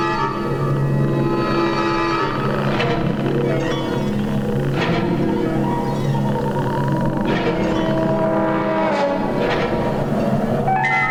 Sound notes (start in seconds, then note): none